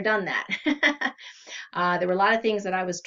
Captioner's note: laughs